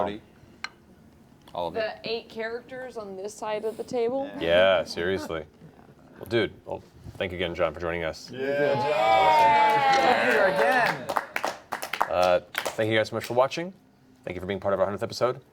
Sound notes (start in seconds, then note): 8.5 cheering